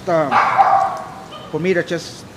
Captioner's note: dog barking